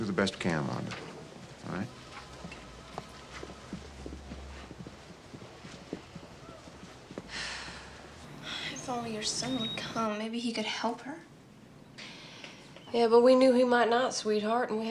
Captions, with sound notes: - Well, do the best we can, Wanda, all right? - Yeah, okay. (Wanda sighs) - (sighs) If only her son would come. Maybe he could help her. - Yeah, but we knew he might not sweetheart